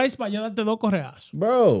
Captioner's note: speaking In Foreign Language